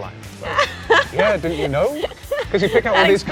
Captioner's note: laughing